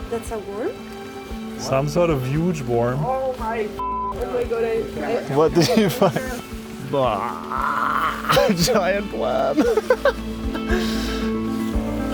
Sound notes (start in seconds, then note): 3.8 beep; 6.9 groans; 10.1 laughs; 11.9 soft pensive music